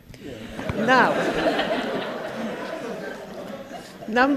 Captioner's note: laughing